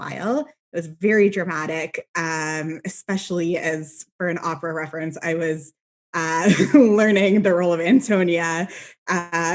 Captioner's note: laughs